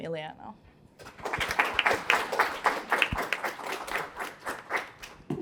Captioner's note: applause